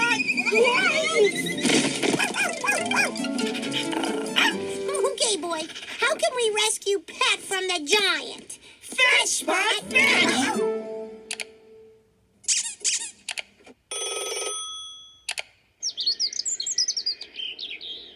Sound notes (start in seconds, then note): 2.1 barking; 12.4 squeak; 13.9 telephone rings; 15.8 birds chirps